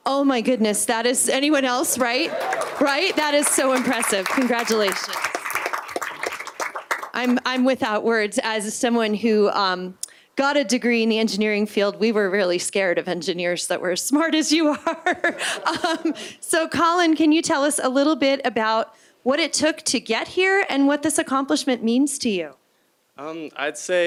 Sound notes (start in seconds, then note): 6.5 applause; 16.5 laughter